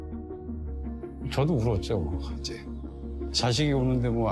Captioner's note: father speaking Korean